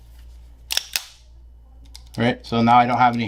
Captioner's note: pistol cocking